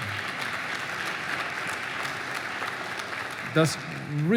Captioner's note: applause